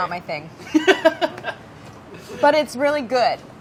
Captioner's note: laughing